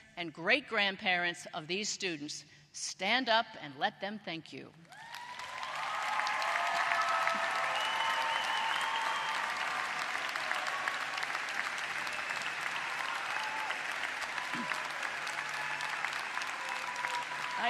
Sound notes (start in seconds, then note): 4.8 applause